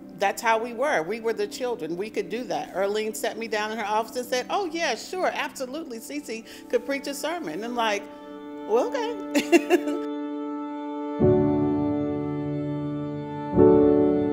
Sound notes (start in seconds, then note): 9.3 laughs; 10.4 melancholy orchestral music